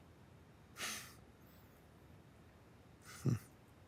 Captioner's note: chuckles